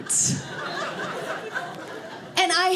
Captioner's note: audience laughing